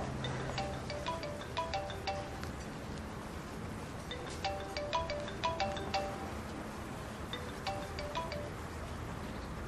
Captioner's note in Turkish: Telefon çalması